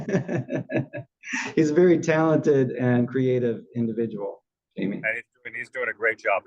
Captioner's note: laugh